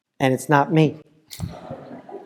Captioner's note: laugh